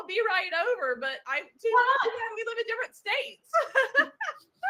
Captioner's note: laughs